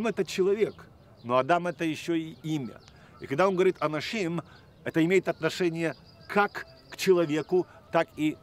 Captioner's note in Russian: говорит на иврите